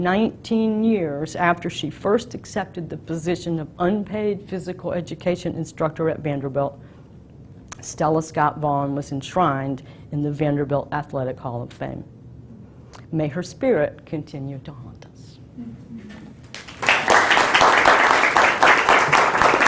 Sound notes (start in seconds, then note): 16.4 applause